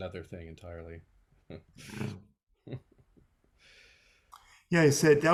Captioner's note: chuckling